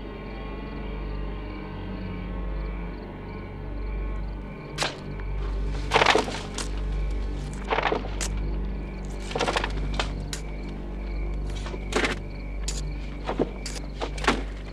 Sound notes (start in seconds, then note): 6.0 dirt crumbling